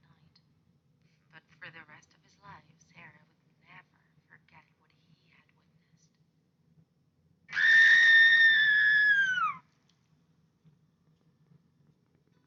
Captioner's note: aaaaaaaaaaaahhhhh hahahahaaaaaaaaaaa!!!!!!!!!!!